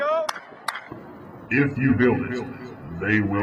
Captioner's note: deep voice with echo